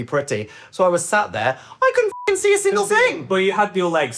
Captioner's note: beep